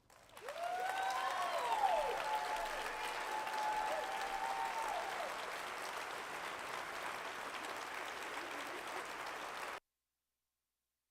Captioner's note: applause